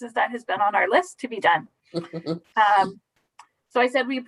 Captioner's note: giggles